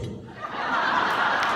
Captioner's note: laughter